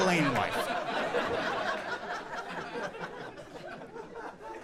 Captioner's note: audience laughing